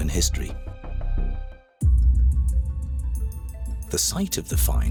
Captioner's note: blunt impact sound over eerie music